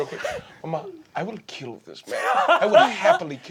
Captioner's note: laughing